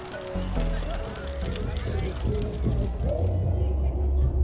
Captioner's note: night sounds